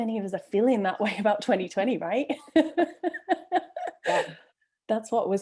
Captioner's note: laughs